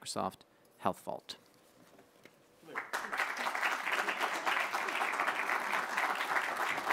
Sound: applause

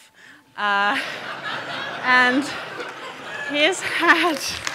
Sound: audience laughing

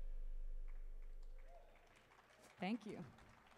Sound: audience applauding

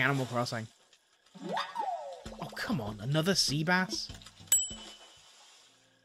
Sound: fishing sounds

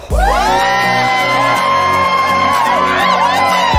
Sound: crowd cheering

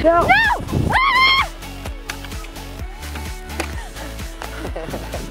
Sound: person screaming

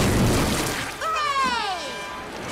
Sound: cheering

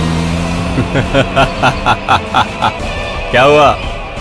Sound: laughs

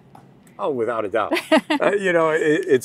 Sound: laughing

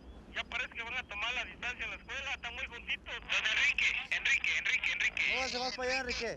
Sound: men on radio speak Spanish; man speaks Spanish

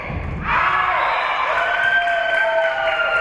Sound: spectators cheering; whistle being blown; spectators cheering and applauding

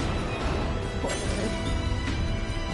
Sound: laughs

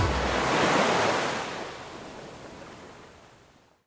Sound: waves crashing

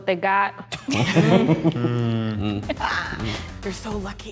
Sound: laughing

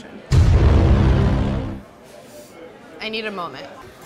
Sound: deep resonating tone

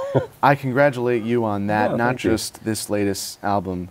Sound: laughs

